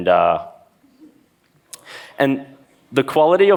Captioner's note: laughs